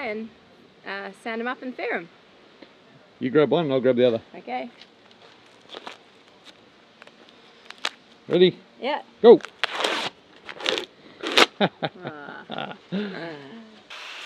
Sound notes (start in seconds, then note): 9.4 strips ripping; 11.5 laughing; 13.9 sander whirring